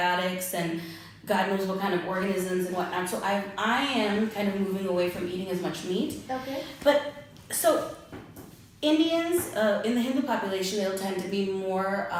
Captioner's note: ahh